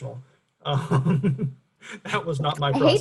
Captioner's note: chuckles